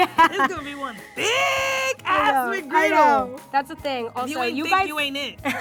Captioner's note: yelling